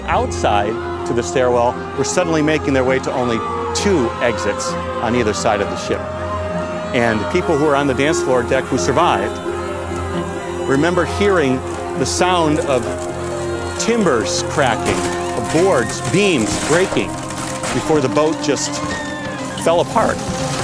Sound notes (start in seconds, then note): 6.5 yelling; 20.4 crashing